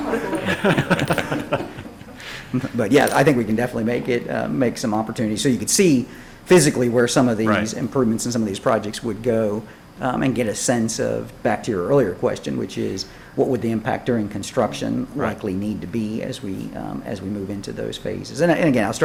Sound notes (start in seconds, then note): 0.0 laughter